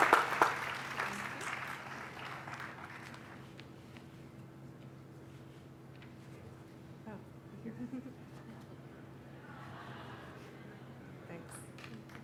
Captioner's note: applause